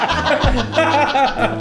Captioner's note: everyone laughs